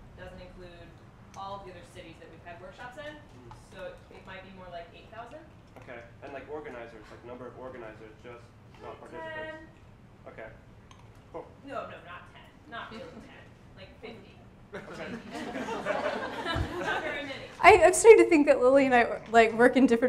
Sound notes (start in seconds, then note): 14.7 some audience members laughing